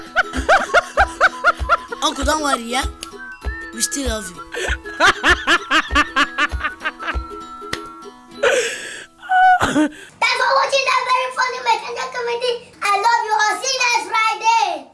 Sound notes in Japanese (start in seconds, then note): 4.6 笑い声